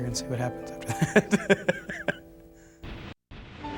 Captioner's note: laughs